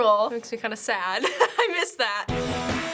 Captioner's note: laughing; punk rock music